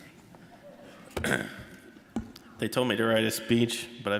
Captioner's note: clearing throat